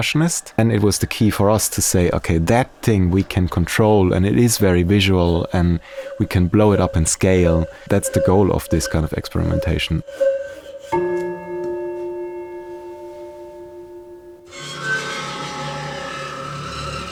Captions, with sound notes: and it was the key for us to say, 'OK, that thing we can control', and it is very visual and we can blow it up in scale. That's the goal of this kind of experimentation. (CHIME) (DISTURBING, DISCORDANT RASPING)